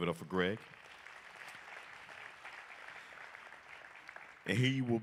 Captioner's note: applause